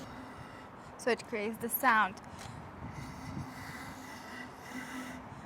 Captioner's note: blowing